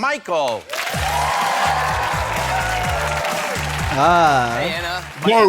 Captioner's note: audience cheering